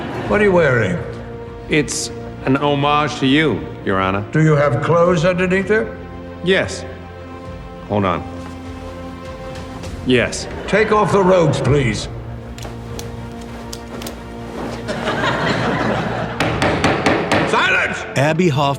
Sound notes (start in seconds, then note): 9.0 laughs; 16.4 gavel raps